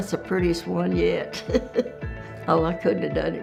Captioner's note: laughing